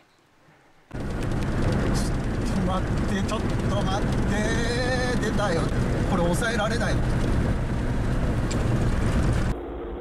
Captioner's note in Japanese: 振動音